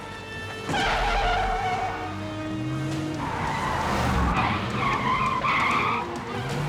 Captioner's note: dramatic music; car screeches